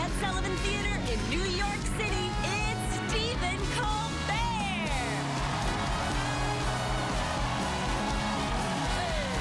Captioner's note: cheers and applause